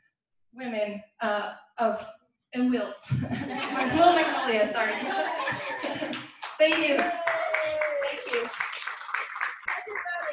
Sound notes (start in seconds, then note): 3.1 laughter; 5.4 clapping; 5.5 applause